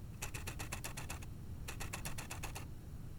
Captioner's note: camera aperture clicking